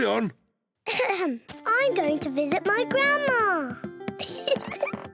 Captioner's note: clears throat; giggles